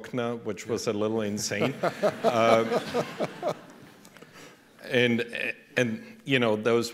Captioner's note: laughter